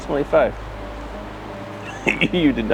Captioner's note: laughing